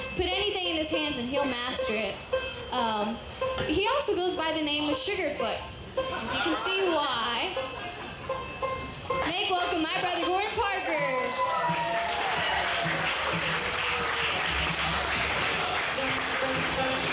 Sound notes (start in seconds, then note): 10.5 audience cheering